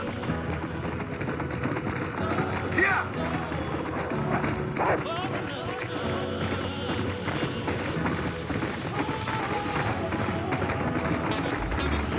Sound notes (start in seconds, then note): 0.1 zombie-wolf cries